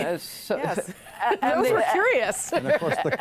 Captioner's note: laughter